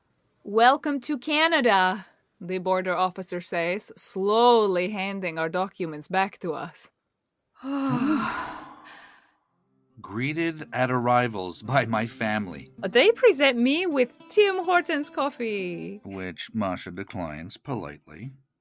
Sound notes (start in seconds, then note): 7.6 both sigh